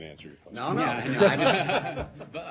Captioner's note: laughter